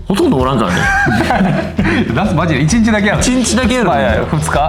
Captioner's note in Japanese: 笑い